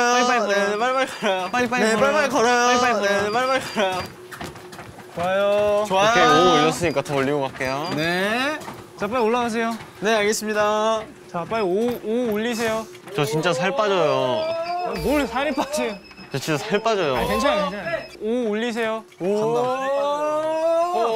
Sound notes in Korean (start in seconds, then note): 17.4 삐비비비비비비빅